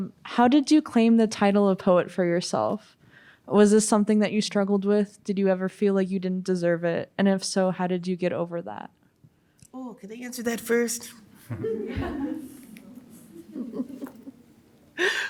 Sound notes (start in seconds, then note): 11.4 all laugh